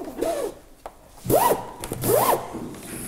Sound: lashing

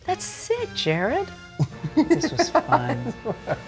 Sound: Jared laughs

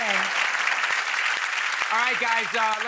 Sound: applause

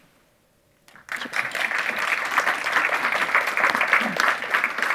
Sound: audience applauding

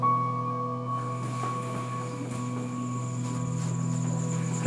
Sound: crickets chirping

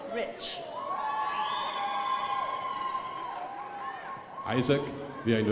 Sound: crowd applauding

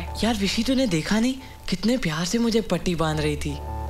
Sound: none

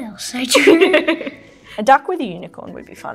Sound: laughing

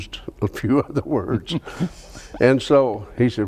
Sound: chuckles

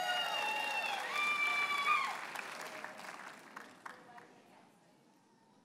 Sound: audience cheers and applauds

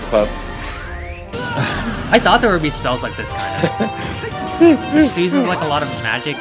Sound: laughs

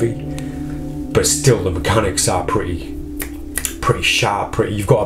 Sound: clicks fingers

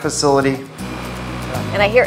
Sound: air conditioner buzzing

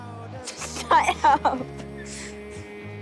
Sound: laughing

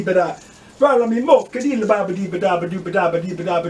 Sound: SOCK HORSE chants

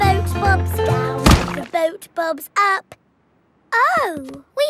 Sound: thuds

